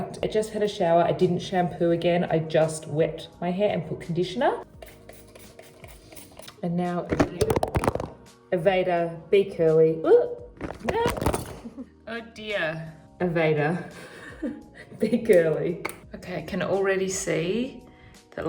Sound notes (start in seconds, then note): 4.7 hair spraying; 7.1 phone dropping; 10.6 phone dropping